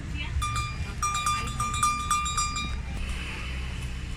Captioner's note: bell rings